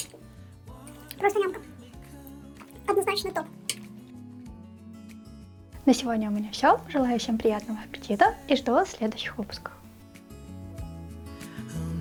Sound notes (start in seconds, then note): 2.7 cartoonish voice